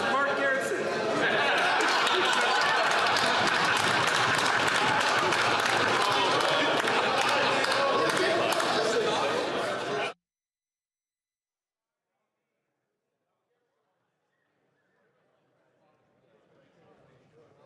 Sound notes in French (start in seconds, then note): 0.0 applaudissements; 5.2 rires